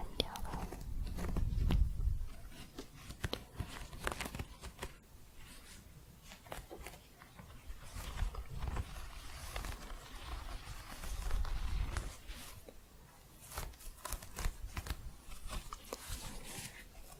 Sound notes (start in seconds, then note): 0.0 varied scratching